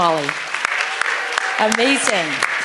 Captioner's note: applause